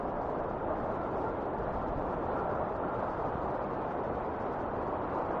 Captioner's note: wind whistling continues